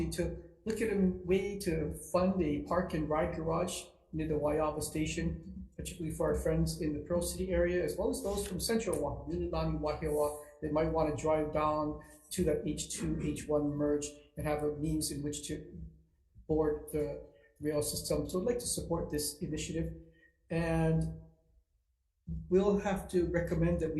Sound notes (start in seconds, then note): 9.0 foreign language